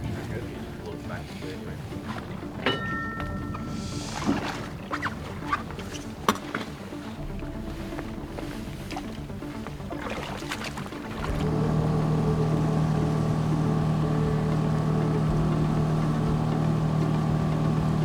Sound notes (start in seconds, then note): 2.6 metal clanking; 7.1 intense music continues; 9.4 water sloshing; 11.5 boat motor humming